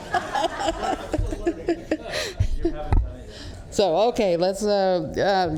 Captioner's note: laughter